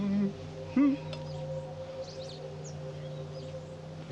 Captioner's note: Dave humming